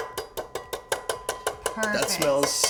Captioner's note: zester taps